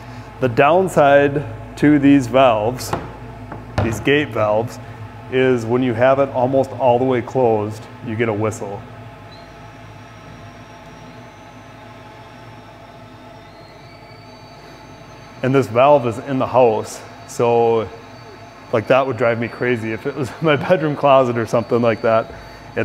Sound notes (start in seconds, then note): 9.4 high-pitched whistle